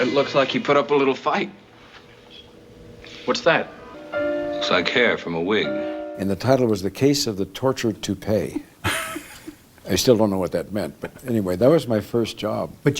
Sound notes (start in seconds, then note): 8.5 laughter